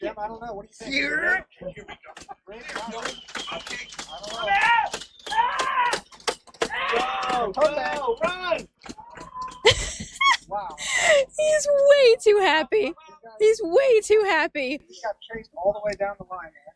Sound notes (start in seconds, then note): 4.0 yelling; 9.6 giggles